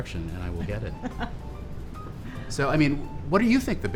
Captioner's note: laughs